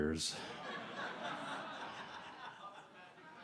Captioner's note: laughter